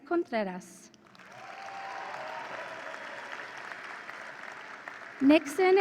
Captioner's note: audience applauds and cheers